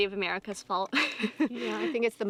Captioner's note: laughs